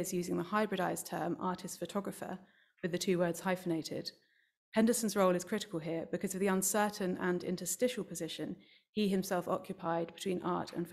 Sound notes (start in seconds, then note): none